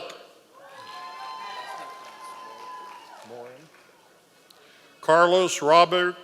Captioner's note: members of the audience cheering